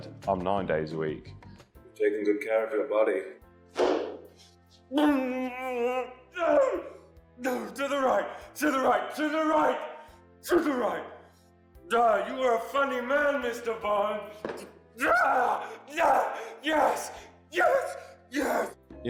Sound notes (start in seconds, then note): 5.0 Pete stifles a scream; 15.0 Peter hits chair and screams